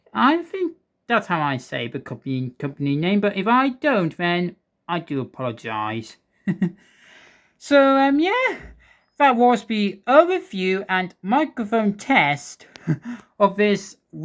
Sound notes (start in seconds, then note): 6.4 chuckles